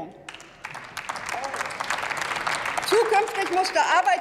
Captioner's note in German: Applaus